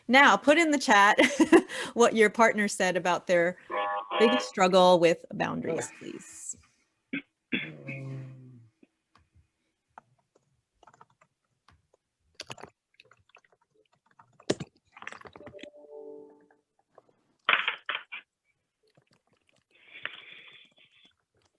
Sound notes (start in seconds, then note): 9.9 keyboard typing